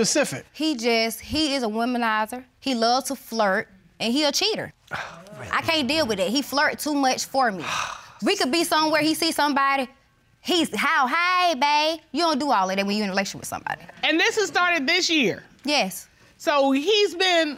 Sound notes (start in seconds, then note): 4.9 scoffs